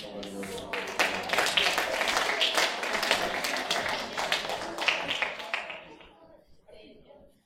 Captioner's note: applause